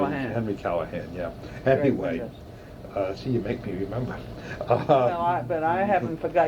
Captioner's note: laughs